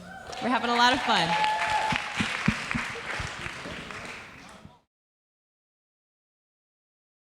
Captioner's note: audience cheering; audience applauds